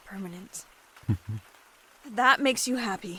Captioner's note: happy hum